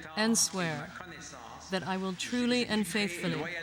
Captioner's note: speaking French